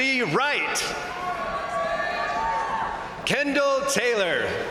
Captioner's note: crowd cheering; crowd applauding